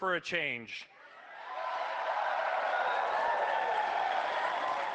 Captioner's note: cheering, applause